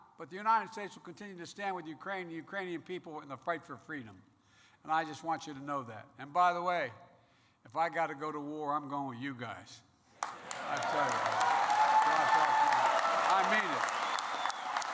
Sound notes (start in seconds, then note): 10.2 applause